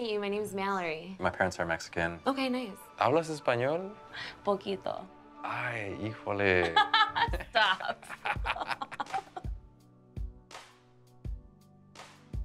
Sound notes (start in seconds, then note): 3.1 speaking Spanish; 6.6 laughs; 9.8 upbeat music